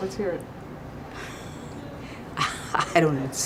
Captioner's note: laughter